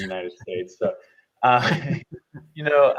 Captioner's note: both chuckle